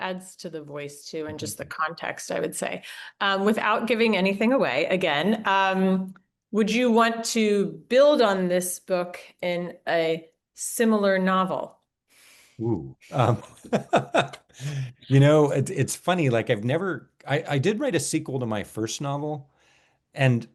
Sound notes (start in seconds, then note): 13.1 laughs